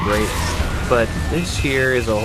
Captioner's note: car crash sounds